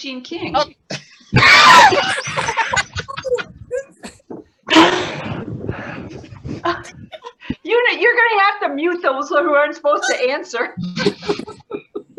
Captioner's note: gasp